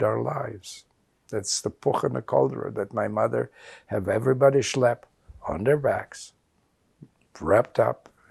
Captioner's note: non-english